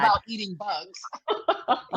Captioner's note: laughs